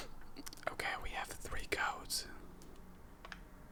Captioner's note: whispers